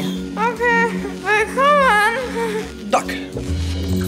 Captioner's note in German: nuschelnd